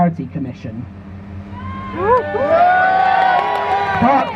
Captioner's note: crowd Cheers